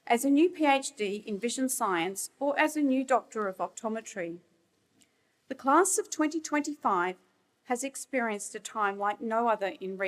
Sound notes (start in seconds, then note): none